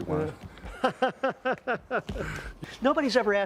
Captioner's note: Gülme